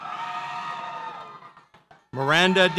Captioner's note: audience cheers